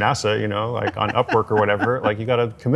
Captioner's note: laughs